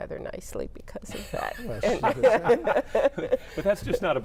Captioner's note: laughing